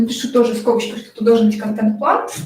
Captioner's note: скрежет маркера по бумаге